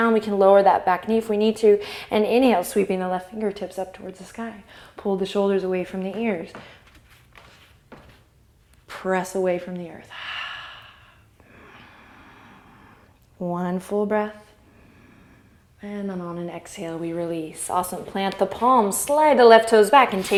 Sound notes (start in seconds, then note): 10.1 exhale; 14.7 inhale